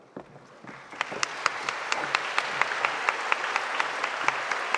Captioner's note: audience applauding